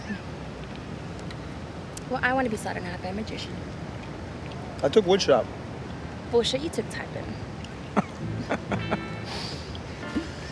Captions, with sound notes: I want to be saw in half by a magician. I took wood shop! Bull Shit, you took typing. [BOTH LAUGHING]